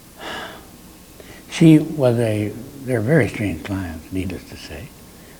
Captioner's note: sighs